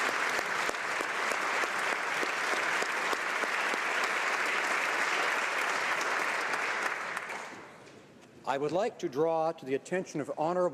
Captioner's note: applause